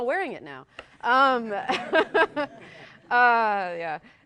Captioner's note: laughter